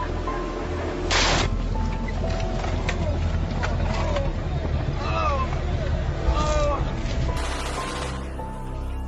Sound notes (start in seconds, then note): 4.9 indistinct shouting; 7.4 gunfire